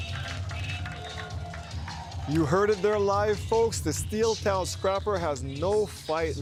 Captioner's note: cheers and Applause